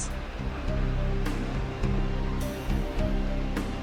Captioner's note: water gushing